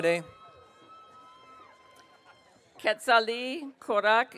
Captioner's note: audience cheering